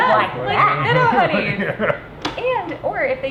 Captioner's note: laughs